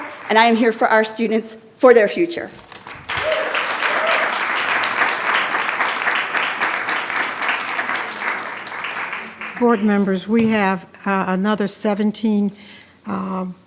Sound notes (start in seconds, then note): 2.6 attendees clapping; 3.1 attendee cheering